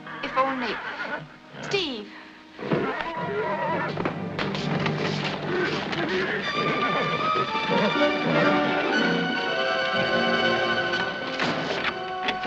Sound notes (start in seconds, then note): 0.0 horses neighing; 8.4 neighing